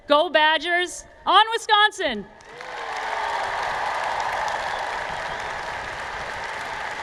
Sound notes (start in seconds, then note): 2.4 cheers and Applause